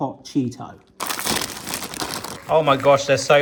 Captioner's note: packet rustling